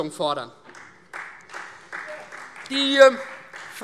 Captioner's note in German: Beifall Freie Demokraten